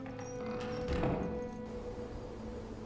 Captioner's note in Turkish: Kapı kapanma sesi